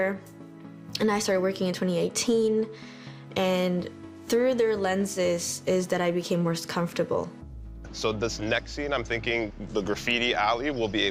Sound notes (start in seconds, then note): none